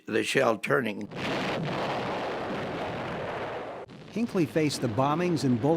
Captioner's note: artillery firing